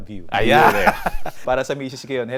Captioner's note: both laughs